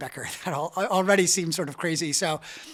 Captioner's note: chuckles